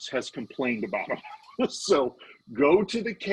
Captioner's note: laughing